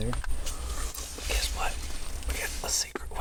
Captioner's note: whispers